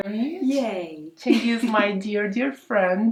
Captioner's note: laughs